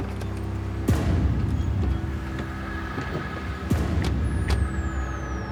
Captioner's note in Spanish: ruido del motor